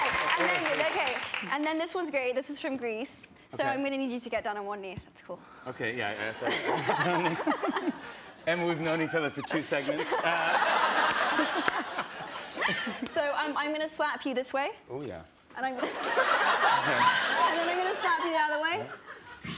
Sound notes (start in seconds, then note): 6.4 laughter; 10.9 laughter; 16.0 laughs